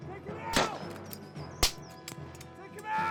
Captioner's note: gun fires